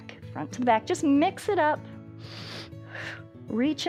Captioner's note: inhales and exhales